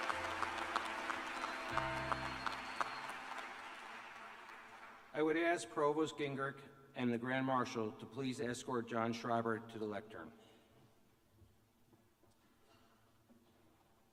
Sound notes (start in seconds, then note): 3.5 applause